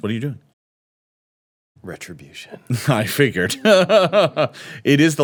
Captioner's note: laughs